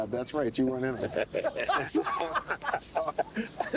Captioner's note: laughs